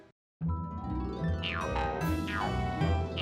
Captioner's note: spring boinging